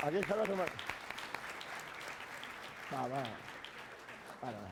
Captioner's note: applause; speaking spanish